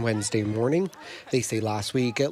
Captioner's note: cheers